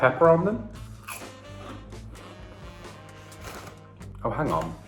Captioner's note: crunches